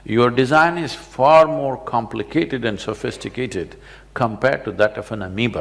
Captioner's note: none